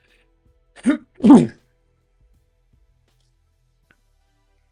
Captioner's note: clears throat